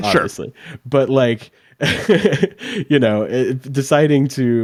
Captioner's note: laughs